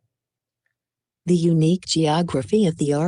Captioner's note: automated Voice